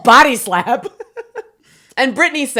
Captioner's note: both laughing